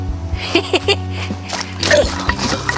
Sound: laughs

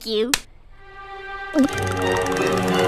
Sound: gulps as body starts to chatter nervously

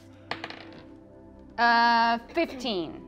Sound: dice rolling

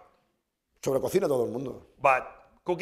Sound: speaking spanish

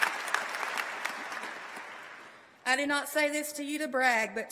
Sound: applause

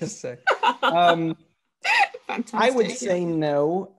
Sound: laughs

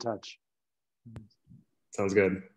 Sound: talks faintly

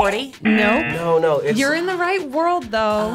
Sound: buzzer razzing

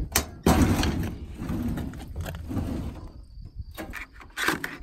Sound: metal slides closed; files sliding; files flipping, pages turning

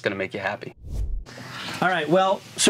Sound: air swooshing

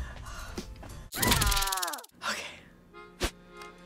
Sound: person screams

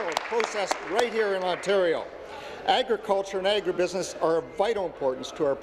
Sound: applause

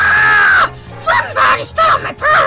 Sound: screams

